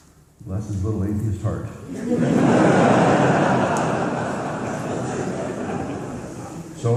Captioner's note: laughter